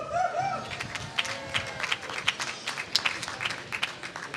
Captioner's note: applause